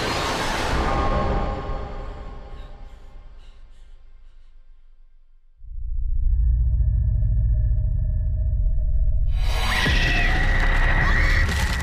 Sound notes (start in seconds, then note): 2.3 Paula breathing heavily; 9.2 Paula screaming; 9.2 sudden ominous music